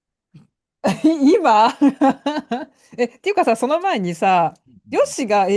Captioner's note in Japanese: 笑い